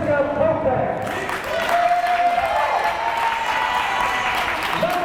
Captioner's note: crowd applause